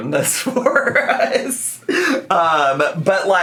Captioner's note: laughing